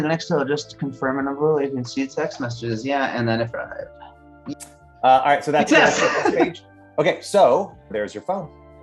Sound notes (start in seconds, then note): 5.4 laughing